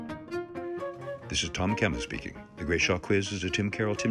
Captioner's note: voiceover